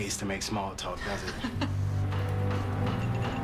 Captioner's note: laughs